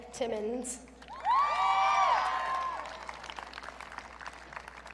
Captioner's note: audience cheering